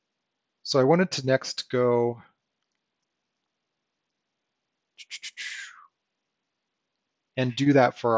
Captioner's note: blows air